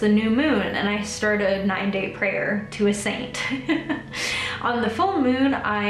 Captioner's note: laughs